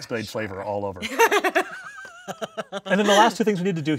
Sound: laughing

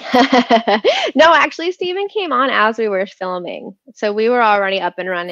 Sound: laughs

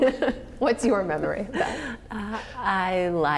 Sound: laughter

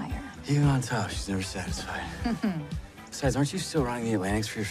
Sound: chuckles

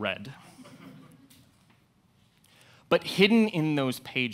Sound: audience laughs

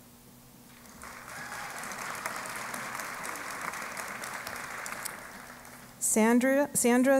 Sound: applause

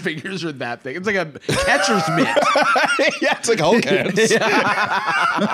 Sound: laughing; both laughing

